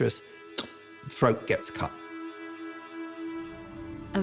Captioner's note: makes sound effect